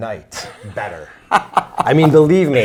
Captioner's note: laughs